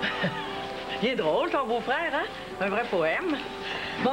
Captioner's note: Rire